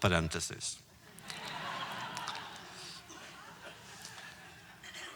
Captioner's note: audience laughter